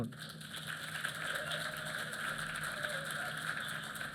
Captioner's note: applause